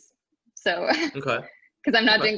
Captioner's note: laughing